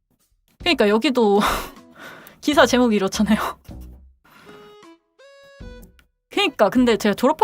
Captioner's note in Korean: 한숨